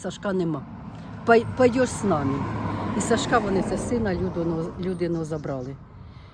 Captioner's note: in Russian